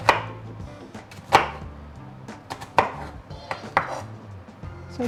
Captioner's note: knife chopping